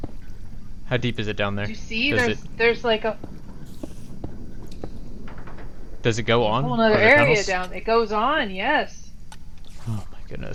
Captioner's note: stompy